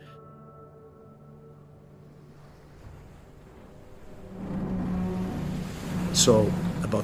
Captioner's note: strong winds, ocean waves, ship metal creaking